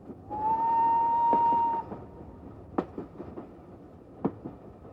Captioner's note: steam engine whistles